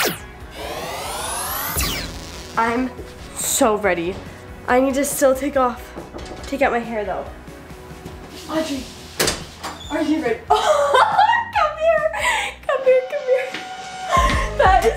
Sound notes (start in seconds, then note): 0.0 lasers; 5.8 knocking; 10.5 laughing